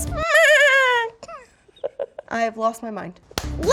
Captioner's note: goat bleating